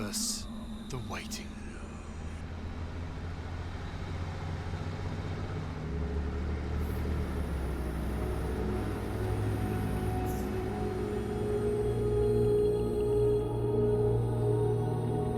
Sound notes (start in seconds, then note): 1.9 engine rumbling